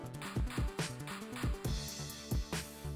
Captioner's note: metal clinks; upbeat music